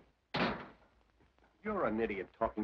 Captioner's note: door slams